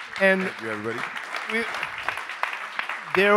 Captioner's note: attendees applaud